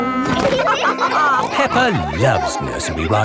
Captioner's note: all laughing